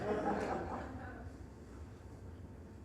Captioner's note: audience laughing